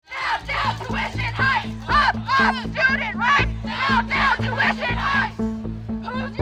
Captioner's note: chanting